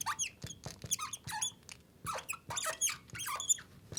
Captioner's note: marker Squeaking